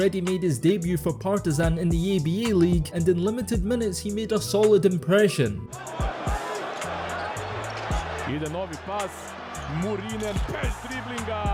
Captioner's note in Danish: Bifald